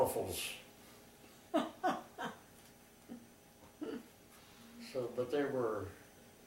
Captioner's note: laughter